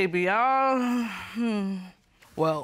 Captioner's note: sighs